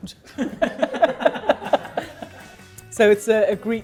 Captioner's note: all laugh